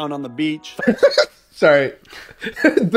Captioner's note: laughs